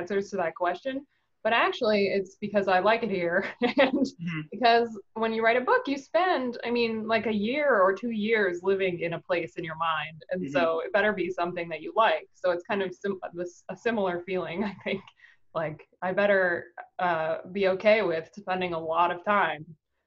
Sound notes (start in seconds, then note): 3.1 laughing